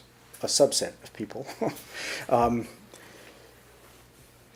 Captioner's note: chuckles